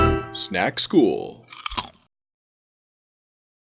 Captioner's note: fun music; Crunch